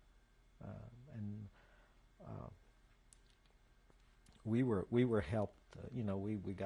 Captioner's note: pauses for 3 seconds